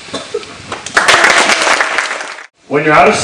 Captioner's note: applause